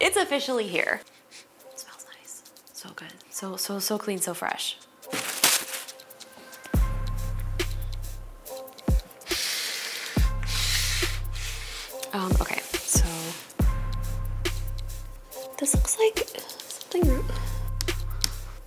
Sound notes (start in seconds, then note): 1.1 sniffing; 5.1 wrapper crumping; 6.7 tense music; 9.5 computer swiveling